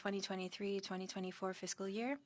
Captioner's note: speaking French